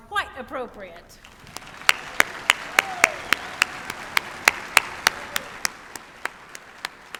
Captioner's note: applause